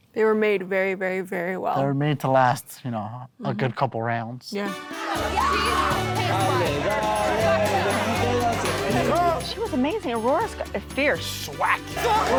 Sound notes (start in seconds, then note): 5.6 shouting and chanting in non english